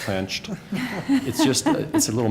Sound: laughter

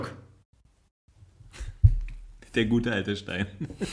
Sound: laughs

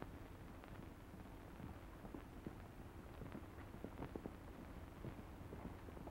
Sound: horse hooves clomping

